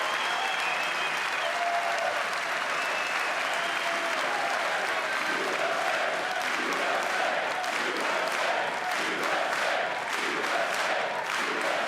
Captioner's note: cheers and applause